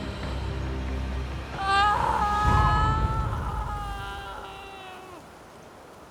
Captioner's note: screaming